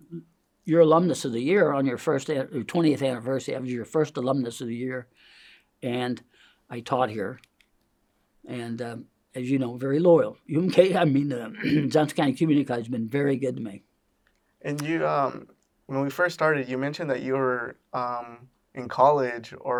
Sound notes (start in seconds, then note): 11.6 clears throat